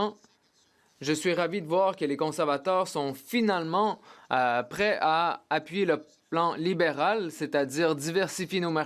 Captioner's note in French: voix de l'interprète